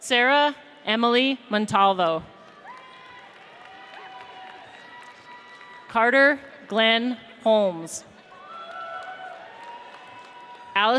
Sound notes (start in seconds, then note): 2.4 audience applauds; 8.3 audience cheers